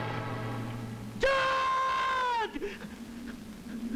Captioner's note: Screams